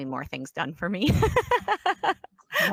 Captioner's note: laughs